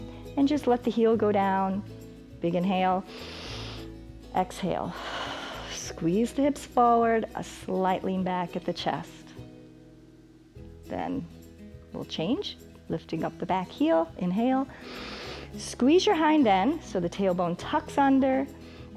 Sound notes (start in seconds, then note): 3.0 exhales; 3.1 inhales; 14.7 inhales